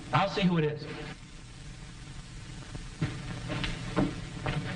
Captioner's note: loud knocking